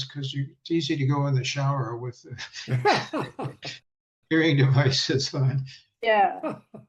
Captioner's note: chuckle